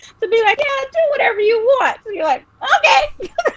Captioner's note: laughing